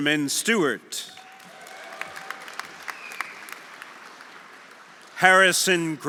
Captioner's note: audience applauding; audience cheering